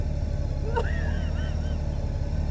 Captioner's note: another chuckle